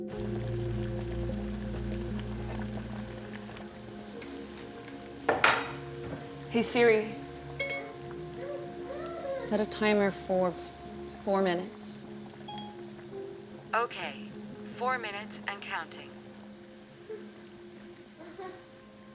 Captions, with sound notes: [water boiling] Hey, Siri. [phone beeping] Set a timer for four minutes. SIRI, AMERICAN ACCENT: Okay. Four minutes and counting.